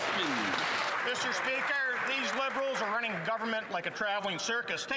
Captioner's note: some Applause